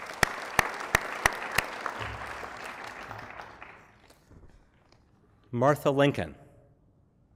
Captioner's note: applause